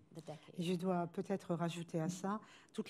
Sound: speaking french

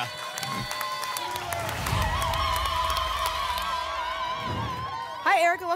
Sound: applause and cheering; whoosh

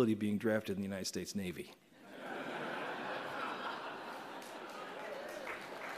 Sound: laughter; applause

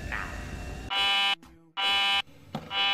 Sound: buzzer

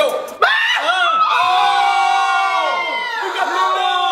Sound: screams

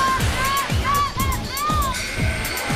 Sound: woman screaming; buzzer sounding

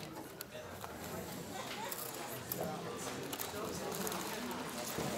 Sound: audience chattering

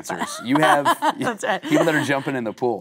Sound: Kate laughing

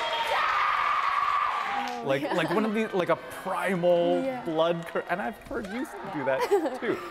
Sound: screaming

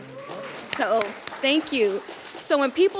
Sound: audience applauding

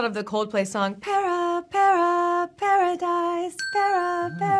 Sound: timer dinging

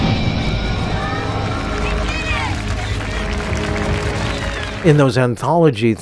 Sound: crowd applauding

